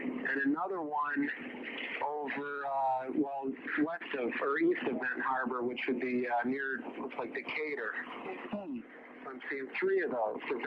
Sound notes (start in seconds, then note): none